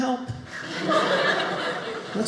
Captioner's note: audience laughing